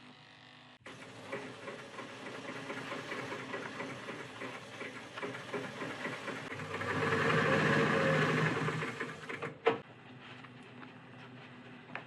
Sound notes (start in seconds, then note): 6.7 sewing machine whirring